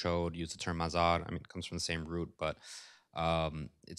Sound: non-english

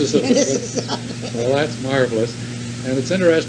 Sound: laughs

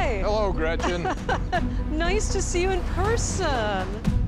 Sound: laughs

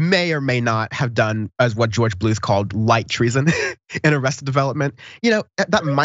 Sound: laugh

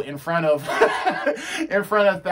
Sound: laughs

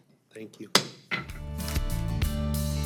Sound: gavel thudding; bright music

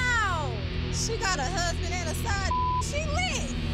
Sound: beep

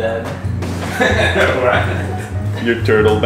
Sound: laugh

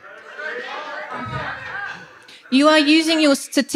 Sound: protesters murmur

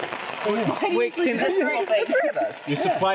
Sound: all chattering

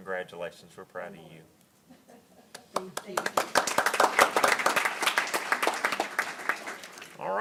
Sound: applause

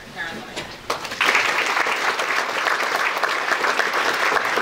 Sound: audience applauding

